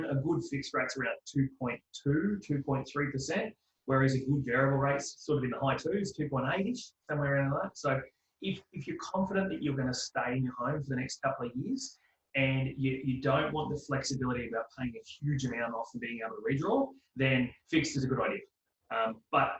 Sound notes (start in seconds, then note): none